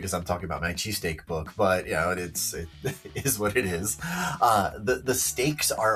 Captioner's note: chuckles